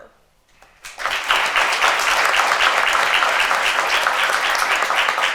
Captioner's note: attendees applaud